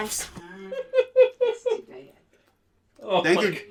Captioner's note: laughter